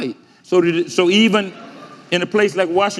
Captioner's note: audience laughing